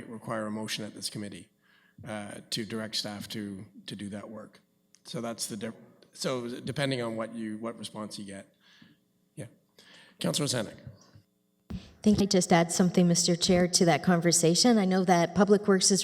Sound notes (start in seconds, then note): 11.4 audio drop